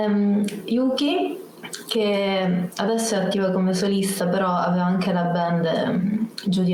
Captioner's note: speaks Italian